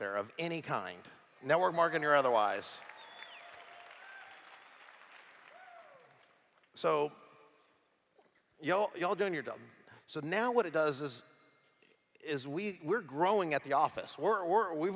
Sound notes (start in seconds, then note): 2.7 applause